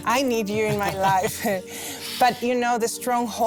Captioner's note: laughs; Melissa laughs